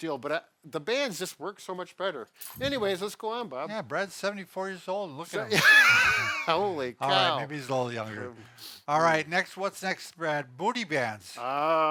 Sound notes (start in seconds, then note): 5.4 laughs